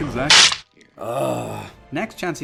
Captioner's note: crack; siiigggghhh